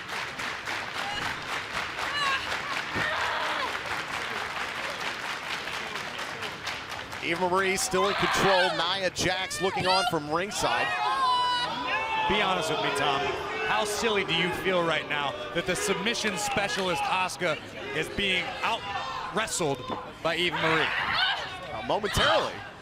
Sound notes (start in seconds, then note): 5.0 clapping